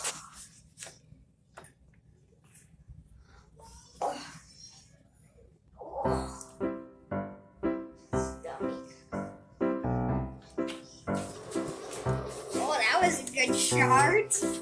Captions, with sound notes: [Sighs] My Stomach. Oh, that was a good shard!